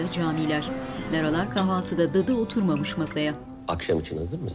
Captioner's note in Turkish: Çatal bıçak sesi